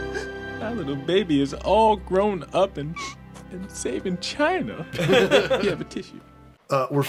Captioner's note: sniffs